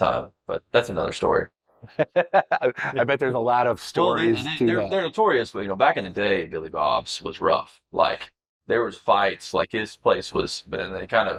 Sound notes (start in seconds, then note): 1.8 laughing